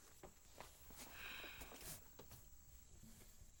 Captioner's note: sighs